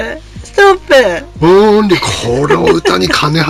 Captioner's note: laughs